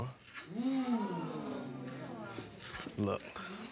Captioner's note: audience gasps